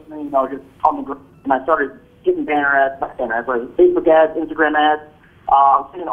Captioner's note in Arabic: خط الهاتف ينقطع